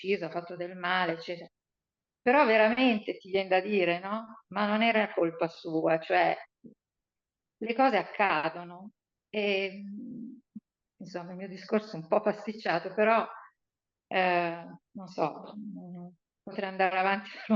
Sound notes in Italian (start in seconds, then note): none